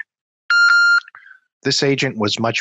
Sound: phone beeps

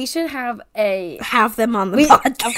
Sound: wheeze laughs

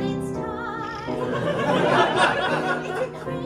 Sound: laughter

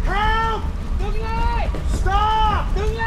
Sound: Alex screams in foreign language

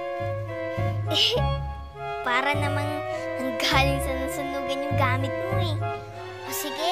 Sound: chuckles

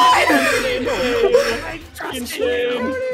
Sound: unintangible screaming

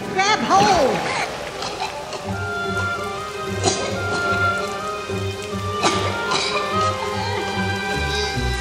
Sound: coughing; grunting

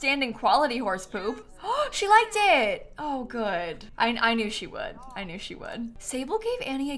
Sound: gasps

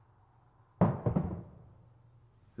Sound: knocks

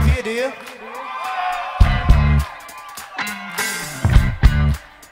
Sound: audience cheers

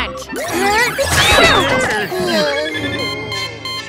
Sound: sneezing

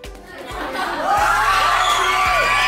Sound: screaming

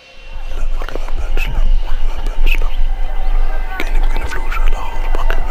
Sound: one of the hunters whispering

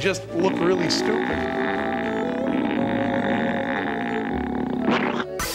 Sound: exaggerated stretching noise

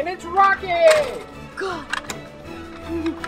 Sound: door slamming

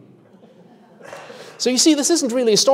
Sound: audience laughing

